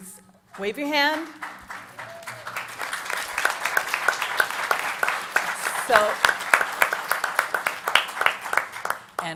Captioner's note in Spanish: Aplausos